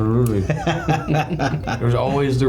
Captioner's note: both laughing